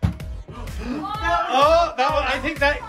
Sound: gasping

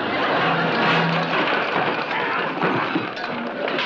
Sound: furniture crashing

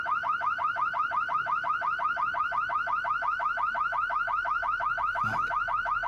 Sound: car alarm blaring

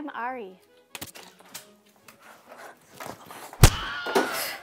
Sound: packets thumping; person screaming owe!

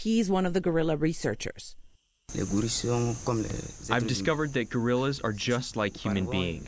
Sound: through translator

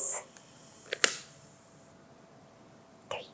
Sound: lighter clicks

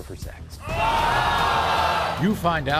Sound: crowd jeers

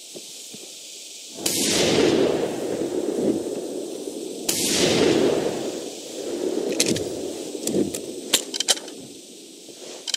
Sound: more gun shots

